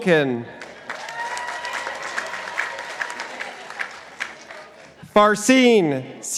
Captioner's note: participants applauding